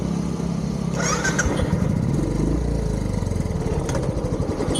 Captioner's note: motorbike engine